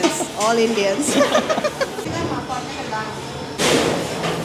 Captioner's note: laugh